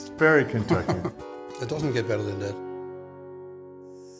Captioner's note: laughs